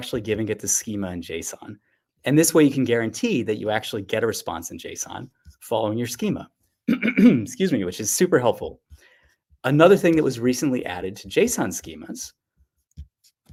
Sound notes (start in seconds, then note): 6.8 clears throat